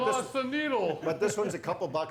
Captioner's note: chuckling